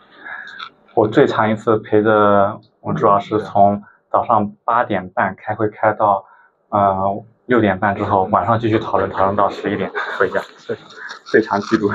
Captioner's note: laughs